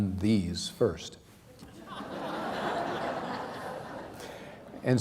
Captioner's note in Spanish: risas